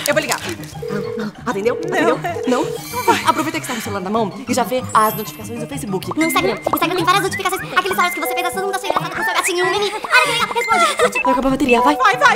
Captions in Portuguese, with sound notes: Eu vou ligar Atendeu!? Atendeu!? Não!? Aproveita que você tá com o celular na mão E já vê as notificações do Facebook E do Instagram!!! Instagram tem várias notificações (falando muito rápido) Olha!!! Responde!!! Curte!!! Vai acabar a bateria!!!